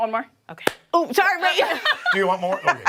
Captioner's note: laughter